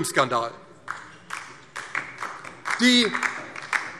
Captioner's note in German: Beifall DIE LINKE